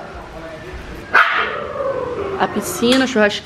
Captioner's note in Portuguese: latido ao fundo